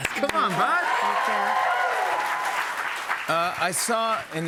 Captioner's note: cheers and applause